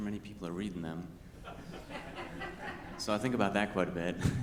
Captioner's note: attendees laughing